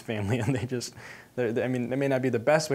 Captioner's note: chuckling